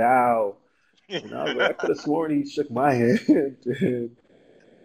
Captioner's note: laugh